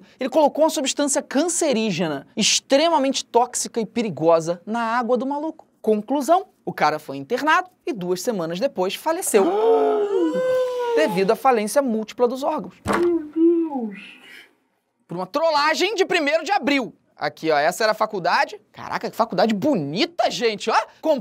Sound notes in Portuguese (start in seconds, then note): 9.9 equipe faz som de surpresa